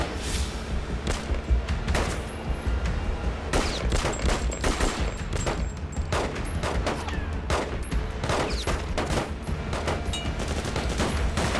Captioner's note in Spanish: Disparos